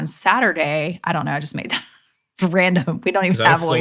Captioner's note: laughing